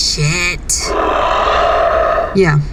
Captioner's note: Flint sighs, disappointed